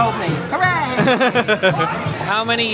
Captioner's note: laughing